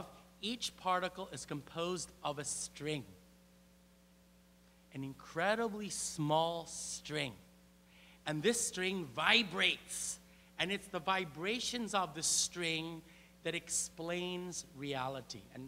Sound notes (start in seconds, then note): none